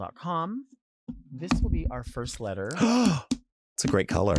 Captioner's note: gasps